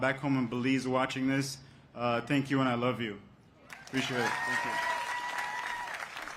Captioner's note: applause